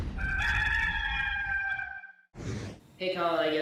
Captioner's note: rooster crowing